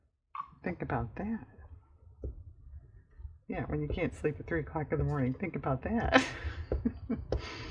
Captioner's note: laughs